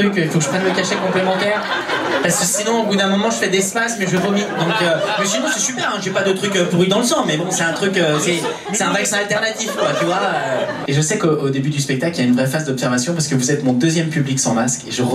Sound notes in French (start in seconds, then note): 1.4 rires public; 9.9 rires public